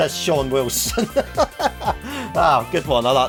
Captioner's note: laughing